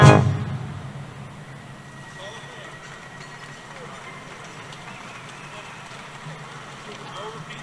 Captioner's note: applause